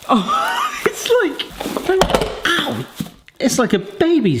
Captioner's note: laughs